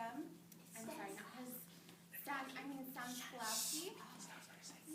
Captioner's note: whispered